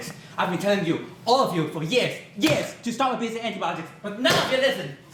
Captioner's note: thud; bang